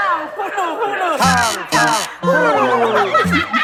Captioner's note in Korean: 삐걱